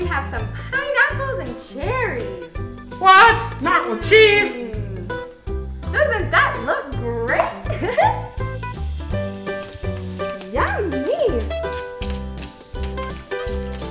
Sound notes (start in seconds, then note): 7.7 giggles